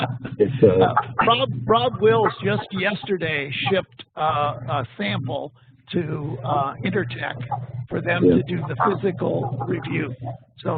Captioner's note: laughs